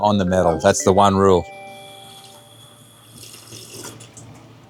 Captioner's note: water pouring; slurping